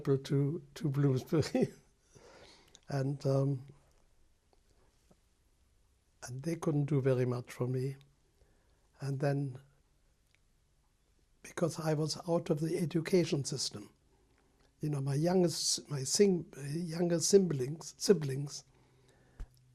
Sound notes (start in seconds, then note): 1.2 laughs; 3.0 pauses for 3 seconds